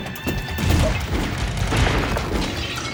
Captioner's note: gunfire